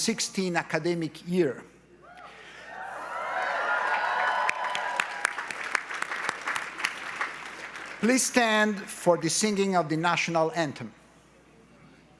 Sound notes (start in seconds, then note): 2.6 audience cheers; 5.4 audience applauds